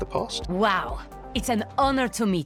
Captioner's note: voiceover